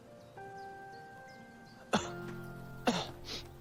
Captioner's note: coughing